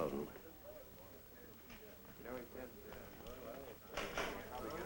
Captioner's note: chattering